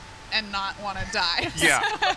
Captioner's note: laughter